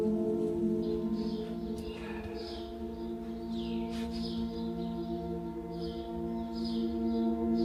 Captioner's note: birds chirping; light gentle relaxing music